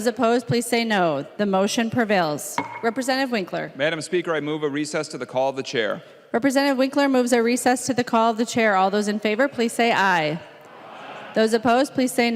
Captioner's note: chorus of ayes